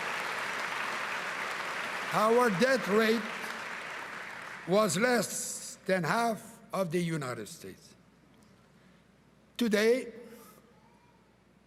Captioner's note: cheering and applause